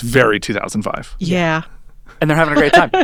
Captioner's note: chuckling